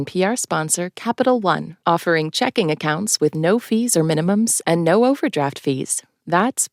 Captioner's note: soundbite of archived recording